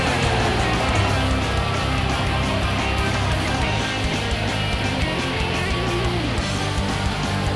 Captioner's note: upbeat music continues; crowd cheering